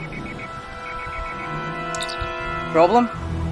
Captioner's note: comm Alert